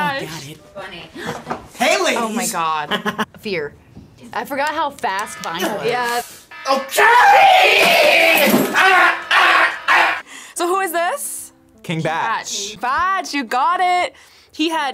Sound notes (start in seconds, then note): 6.5 alarm blares